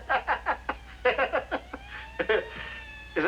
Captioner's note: sirens